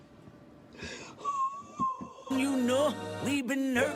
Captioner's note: woman sobbing